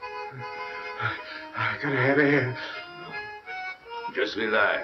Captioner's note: panting